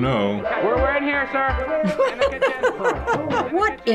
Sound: laughs

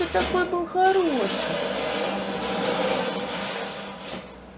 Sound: the sound of the movement of the rack on the floor

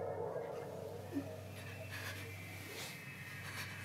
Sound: sobbing

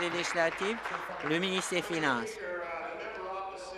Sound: applause

